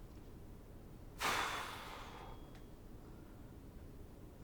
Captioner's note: exhales